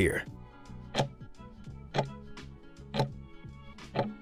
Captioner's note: timer ticking